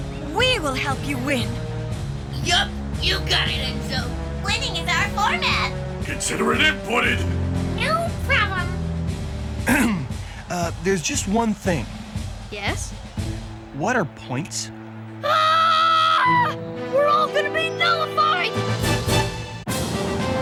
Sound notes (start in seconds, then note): 9.6 clears throat; 15.2 screaming